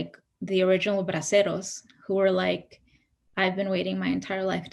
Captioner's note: speaks in Spanish